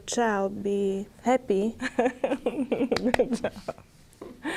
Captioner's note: claps hands